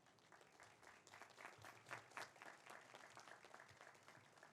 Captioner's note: audience applauds